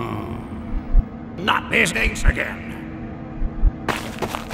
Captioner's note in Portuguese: Kia suspira